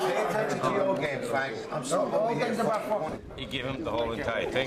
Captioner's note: all chattering